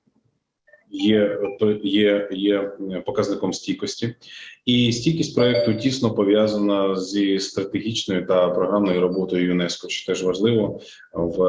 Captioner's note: foreign Language Spoken